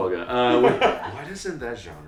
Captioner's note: laughing